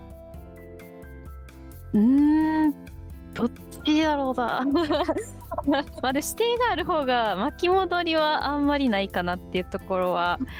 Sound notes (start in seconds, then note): 4.7 laughs